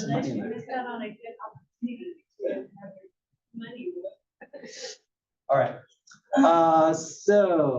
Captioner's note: laugh